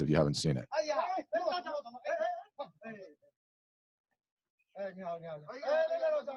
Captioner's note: speaking in a foreign language